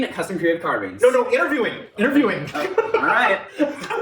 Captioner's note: laughing